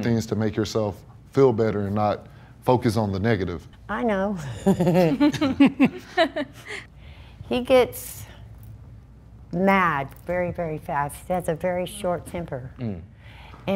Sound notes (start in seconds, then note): 4.5 laughs